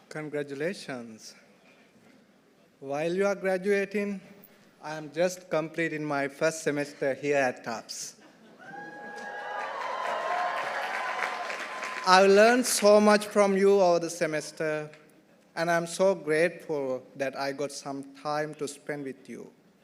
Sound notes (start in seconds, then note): 8.6 audience cheering; 8.7 audience applauding